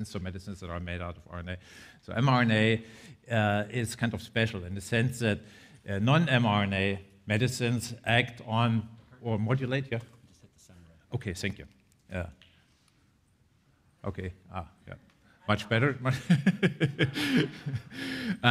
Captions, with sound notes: So medicines that are made out of RNA. So mRNA is kind of special in the sense that non mRNA medicines act on or modulate Yeah. Okay, thank you. Yeah. Okay. Ah, yeah, much better (laughs)